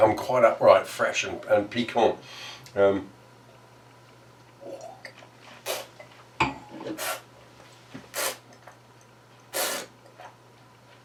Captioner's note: slurping